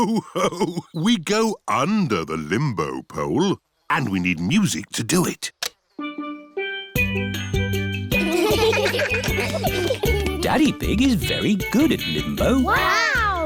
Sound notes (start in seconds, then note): 0.0 laughs; 6.0 steel band; 8.2 laughter